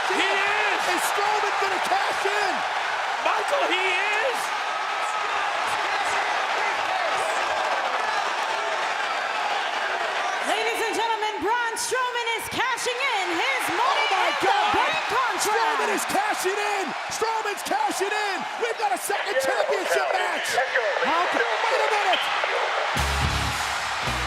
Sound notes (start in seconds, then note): 5.2 applause